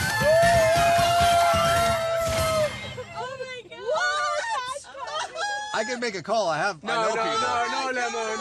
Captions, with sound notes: [Cheering] Oh my god! What? I can make a call, I have- I know people.